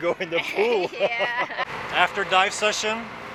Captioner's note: laughing